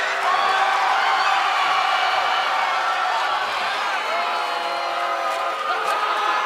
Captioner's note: cheers and applause